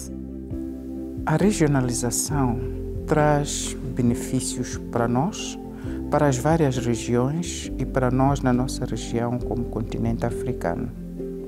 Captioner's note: speaking Portuguese